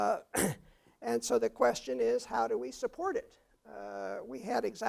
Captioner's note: cough